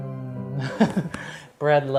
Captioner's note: lullaby music plays; laughs